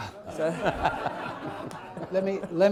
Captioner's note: laughter